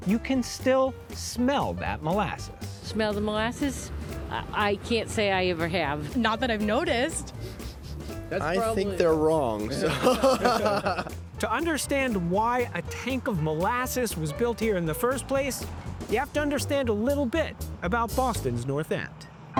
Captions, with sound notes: you can still smell that molasses. - Smell the molasses? I can't say I ever have. - Not that I've noticed. - (sniffing) I think they're wrong. (laughing) - To understand why a tank of molasses was built here in the first place, ya have to understand a little bit about Boston's North End.